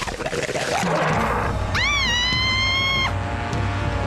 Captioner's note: growling; screams